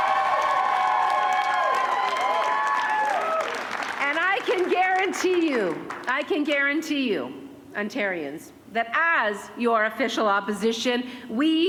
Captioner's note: cheering